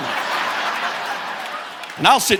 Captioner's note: audience laughing